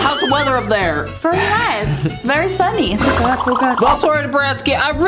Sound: wobbling sound effect

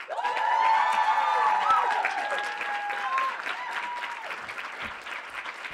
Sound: audience applauding

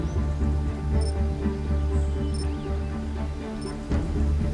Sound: beeping

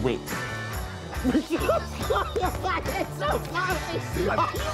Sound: laughing

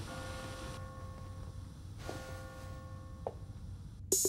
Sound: clock chimes

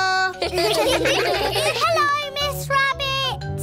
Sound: children giggle

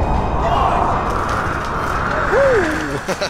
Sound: huge wind gust

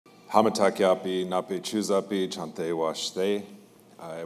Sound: in his language

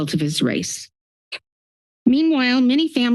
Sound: pause

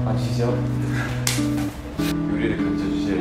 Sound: laughs

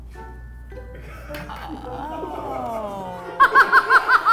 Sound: crew laughing; laughing

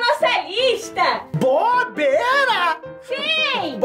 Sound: incredulous

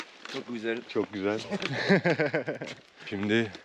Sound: laughs

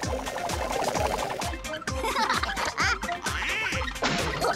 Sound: laughing

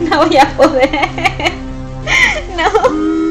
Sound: laughs

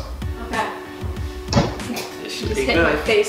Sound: bang

